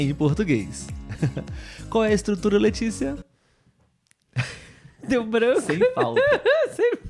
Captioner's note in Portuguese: risadas